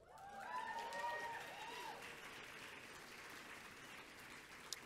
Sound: audience cheering and clapping

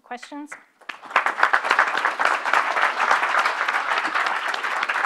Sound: audience applauds

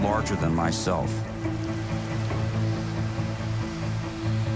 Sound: rain pattering; uplifting music

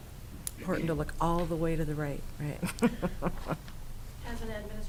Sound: laughs

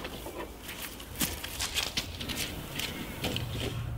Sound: squelching mud

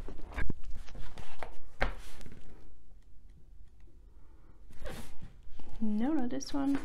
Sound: sound of flipping pages

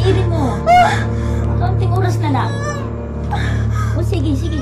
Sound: Mita groaning

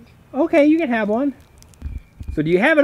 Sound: voiceover

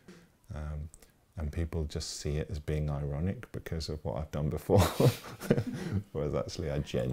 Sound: laughs

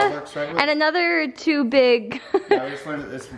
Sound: laughter

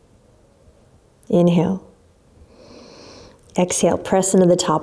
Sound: inhaling deeply

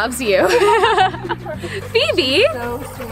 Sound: both laughing

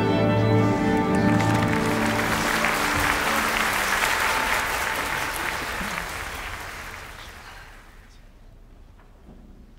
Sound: applause

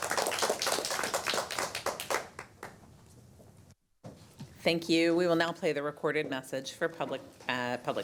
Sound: applause

